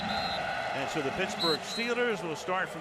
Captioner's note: whistle